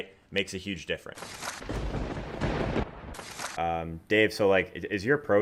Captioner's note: lightning strike and thunder boom